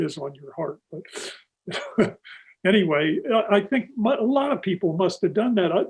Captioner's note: laughs